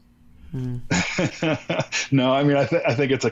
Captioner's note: laughs